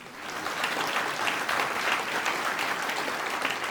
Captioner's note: applause